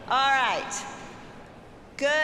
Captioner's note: none